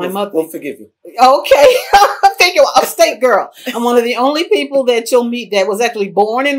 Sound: laughter

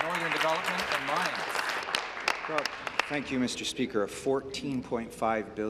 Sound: applause

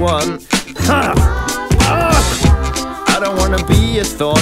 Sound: coughing

